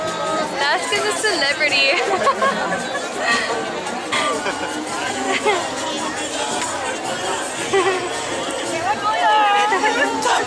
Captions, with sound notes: Laska the celebrity! [Laughter] [Laughter] How pretty!